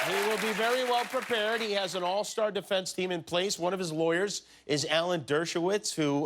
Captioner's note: applause